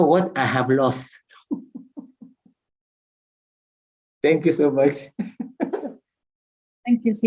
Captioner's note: laughs